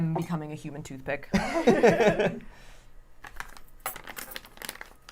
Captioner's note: laughter